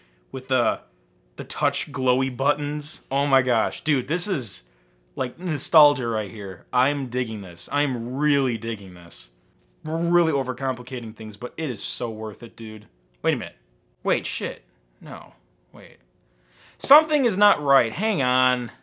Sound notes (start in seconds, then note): none